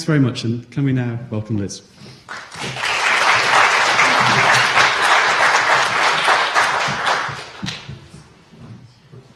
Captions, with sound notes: very much, and can we now welcome Liz. [applause]